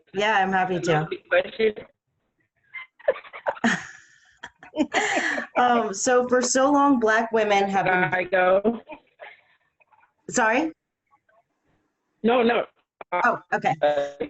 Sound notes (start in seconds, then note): 2.8 laughing; 9.7 laughs